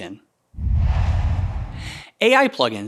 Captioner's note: logo swooshes